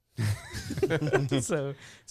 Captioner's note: laughing